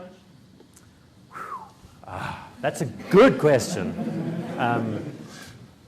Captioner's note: exhales